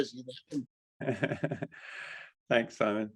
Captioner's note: laughing